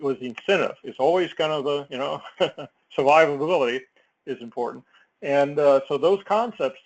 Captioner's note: laugh